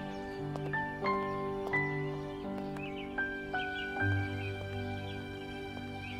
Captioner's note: Footsteps